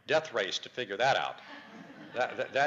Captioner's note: audience laughter